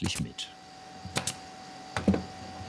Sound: tacking noise

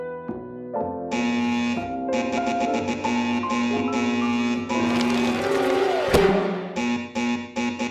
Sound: buzzing

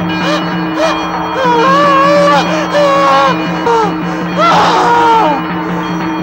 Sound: groans

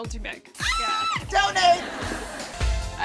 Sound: scream

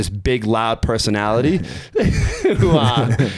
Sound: chuckling

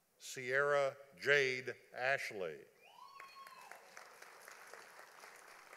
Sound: audience applauding

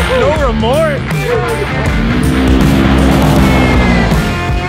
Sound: engine roars

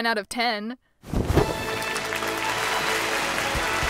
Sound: fabric rustling; celebratory fanfare; crowd cheering

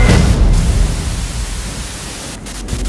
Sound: television static

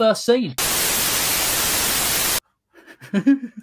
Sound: Static

